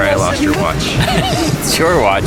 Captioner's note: laughs